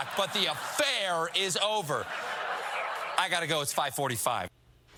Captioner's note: laughter